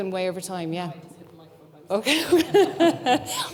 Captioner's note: speaking faintly